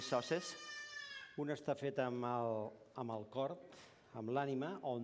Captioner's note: non-english speech